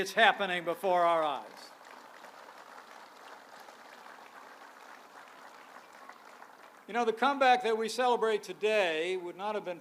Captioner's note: applause